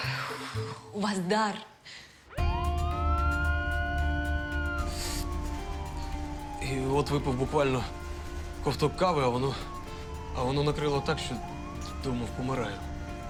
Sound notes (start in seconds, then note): 2.3 ambulance siren